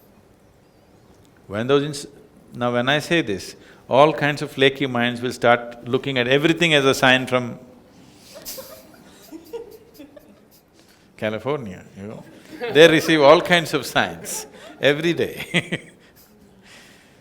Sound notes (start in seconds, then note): 8.2 laughs; 16.5 laughs